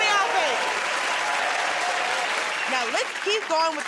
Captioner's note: cheers and applause